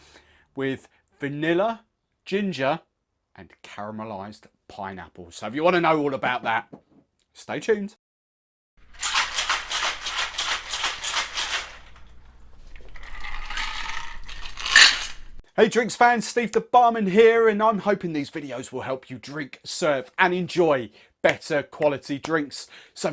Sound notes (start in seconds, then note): 8.9 cocktail shaker shaking; 12.5 pouring drink